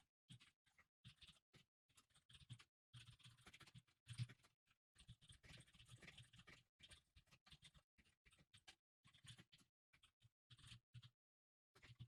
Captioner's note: typing sounds